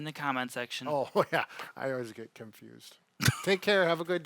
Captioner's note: laughs